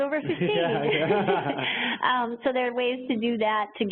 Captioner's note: both laugh